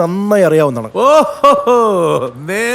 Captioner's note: laughing